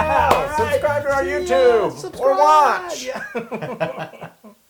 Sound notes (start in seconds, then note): 4.1 laugh